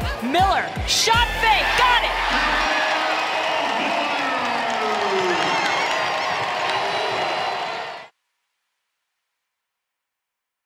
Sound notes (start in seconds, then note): 2.6 crowd cheering